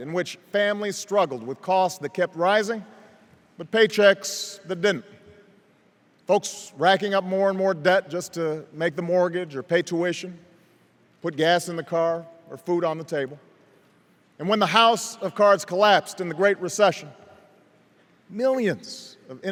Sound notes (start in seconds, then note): none